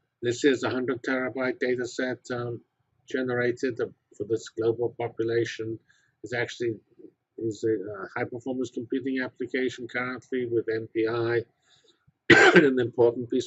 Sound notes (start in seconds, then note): 12.3 cough